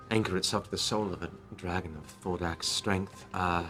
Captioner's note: none